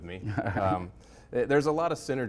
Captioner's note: laughing